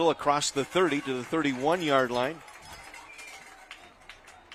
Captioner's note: applause